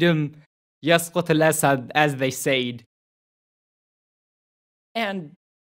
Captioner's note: non-english speech